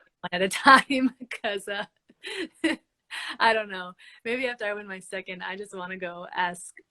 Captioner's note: laughs